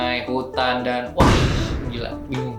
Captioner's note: boom